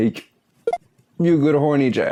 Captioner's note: bonk!